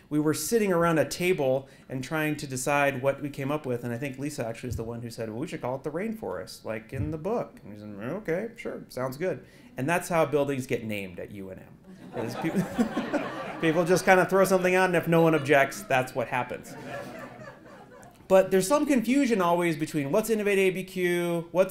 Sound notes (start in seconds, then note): 12.0 laugh